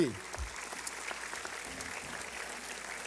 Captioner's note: applause